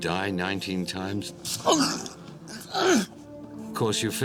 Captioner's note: gasping